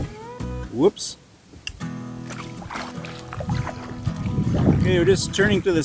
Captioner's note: sound of kayak hitting a rock